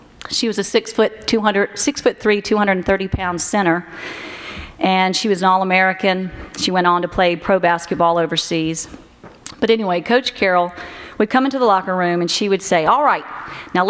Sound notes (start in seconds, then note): none